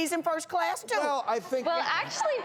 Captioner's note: audience laughing